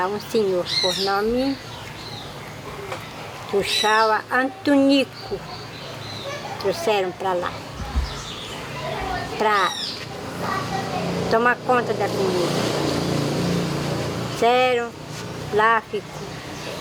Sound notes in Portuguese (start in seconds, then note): 9.4 pássaros cantando; 12.5 veículo passando na rua